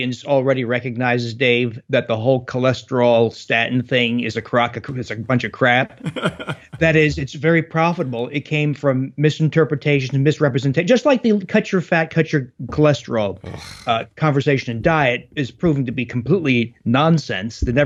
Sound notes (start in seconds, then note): 5.6 laughs; 13.4 scoffs